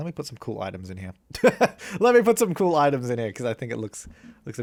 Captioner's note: laughter